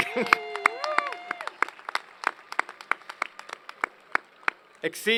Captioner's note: cheers and Applause